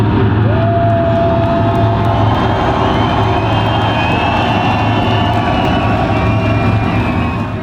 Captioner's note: crowd cheers; music fades